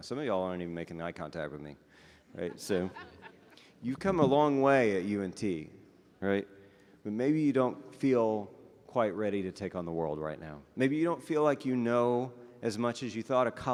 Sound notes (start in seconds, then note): 2.3 audience members laughing